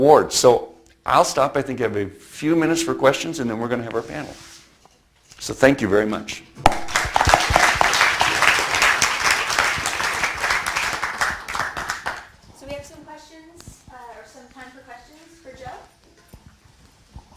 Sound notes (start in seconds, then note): 6.7 audience applauds